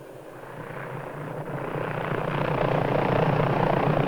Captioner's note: helicopter blades whirring